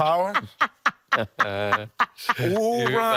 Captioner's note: laughing